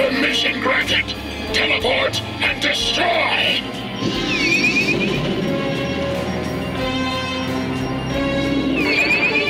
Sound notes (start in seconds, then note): 4.3 Skywarp whirring; 7.2 gentle suspense music